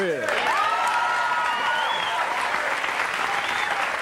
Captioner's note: audience cheering